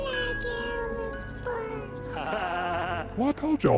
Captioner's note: laugh